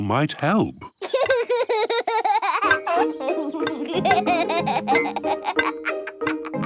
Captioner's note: laughs